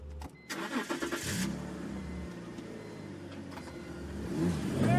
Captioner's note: car engine revving